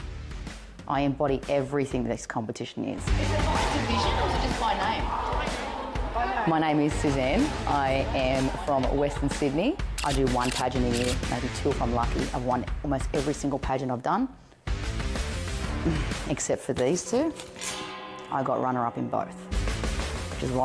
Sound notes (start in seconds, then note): 10.0 camera clicking; 17.4 guitar strings clang